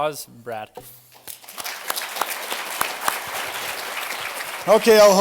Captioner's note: applause